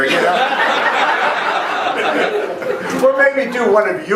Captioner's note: laughing